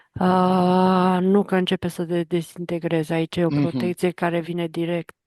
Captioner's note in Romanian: voce dreasă